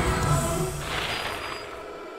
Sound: brakes screeching

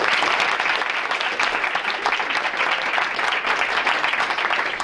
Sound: audience applauding

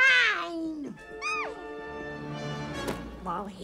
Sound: Pubert continues to giggle

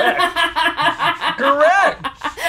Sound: laughing

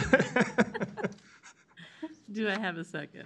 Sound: laughs

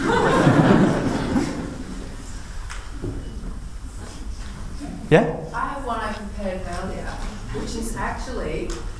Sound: laughter

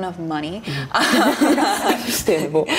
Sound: laughter

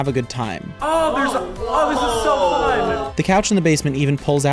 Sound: exclaiming

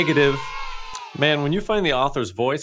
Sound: kids cheering

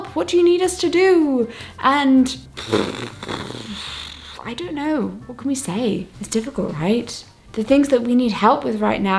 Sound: blows air

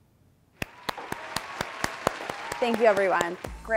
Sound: applause

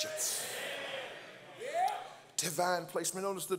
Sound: congregants call out

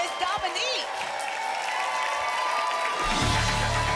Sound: applause and cheering cont

